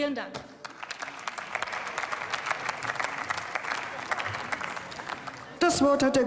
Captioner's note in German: Beifall